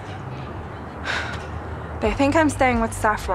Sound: Ingrid sighs

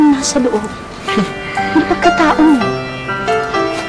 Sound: chuckles

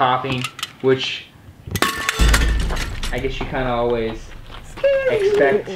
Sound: bang

